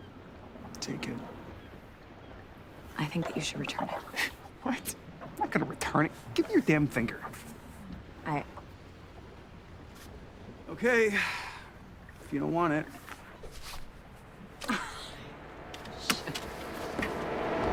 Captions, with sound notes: - Take it. - I think that you should return it. - What? I'm not gonna return it, give me your damn finger. - I... - Okay. If you don't want it. (water splashing) (Sandy chuckling) - Shit.